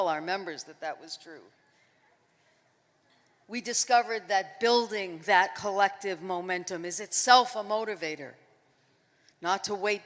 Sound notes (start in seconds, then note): none